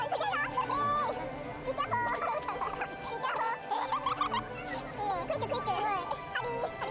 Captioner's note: laughs